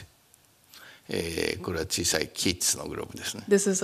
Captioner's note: speaking japanese